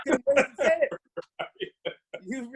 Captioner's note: laughs